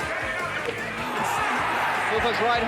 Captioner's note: audience cheering